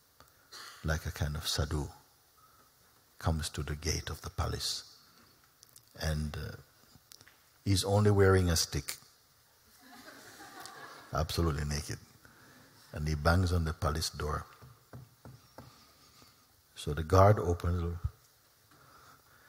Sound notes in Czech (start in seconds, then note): 9.8 Smích; 14.6 Klepání